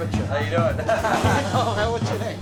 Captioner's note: laughter